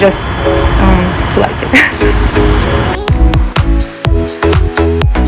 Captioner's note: laughs; upbeat music